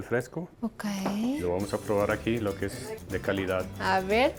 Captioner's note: speaking Spanish